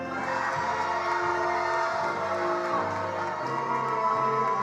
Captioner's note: attendees applauding